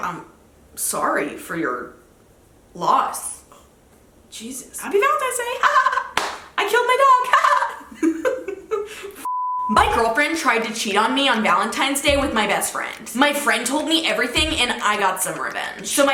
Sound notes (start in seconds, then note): 5.6 giggles; 7.3 giggling; 9.2 beep